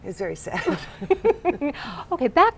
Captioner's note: laughter